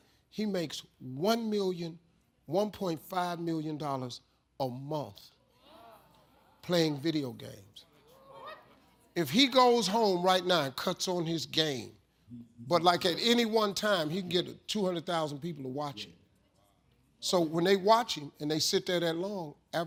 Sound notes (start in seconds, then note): 5.7 audience exclaims